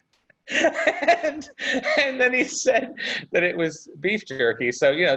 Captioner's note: laughs